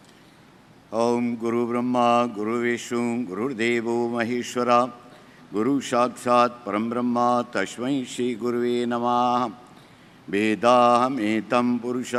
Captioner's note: praying in Sanskrit